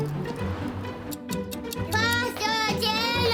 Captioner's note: clock ticking